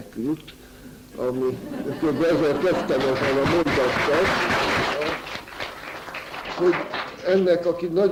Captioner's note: applause